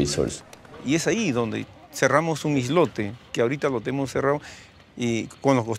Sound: man speaking foreign language

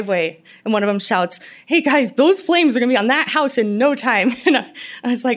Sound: laughter

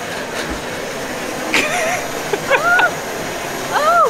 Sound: laughs

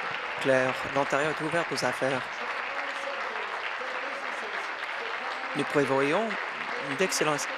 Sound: applause

